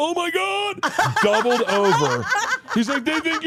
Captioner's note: laugh